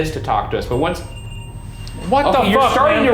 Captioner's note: REM-pod beeps